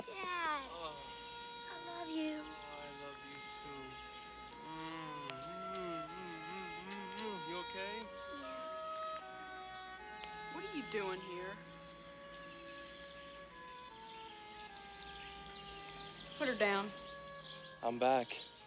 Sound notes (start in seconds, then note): 5.0 kissing sounds